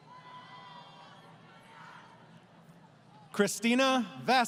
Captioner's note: crowd Cheering